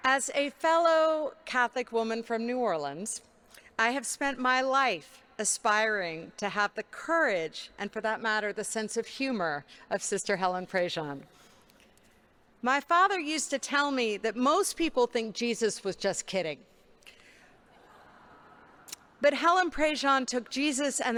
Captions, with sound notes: As a fellow Catholic woman from New Orleans, I have spent my life aspiring to have the courage and for that matter, the sense of humor of Sister Helen Prejean. My father used to tell me that most people think Jesus was just kidding, (congregation laughing) but Helen Prejean took Jesus